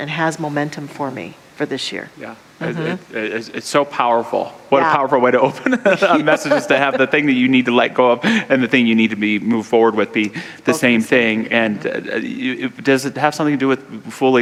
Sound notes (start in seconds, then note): 5.4 laughter